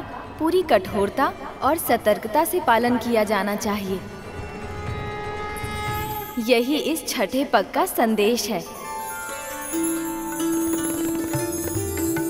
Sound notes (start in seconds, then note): 4.2 conch blowing